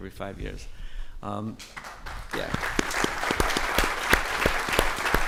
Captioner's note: audience applauding